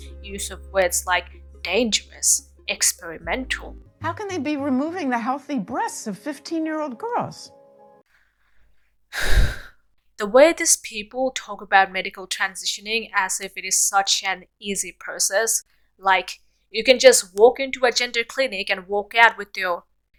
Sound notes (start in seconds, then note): 9.1 sigh